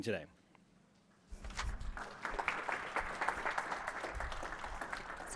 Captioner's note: applause